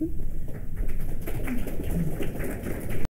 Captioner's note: applause